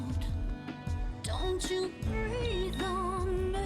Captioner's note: beeping